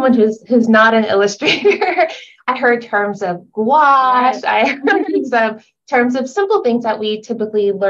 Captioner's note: slight laughter